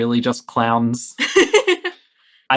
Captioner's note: laughing